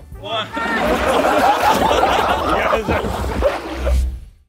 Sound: contestants laughing; water splashing

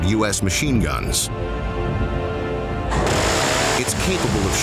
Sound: intense music; gun firing

